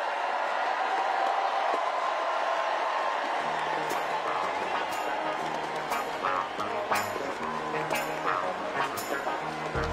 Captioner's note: cheers and applause